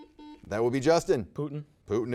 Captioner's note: buzzer beeps